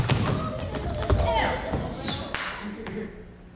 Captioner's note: group chattering; Hortensio clears throat; hands clap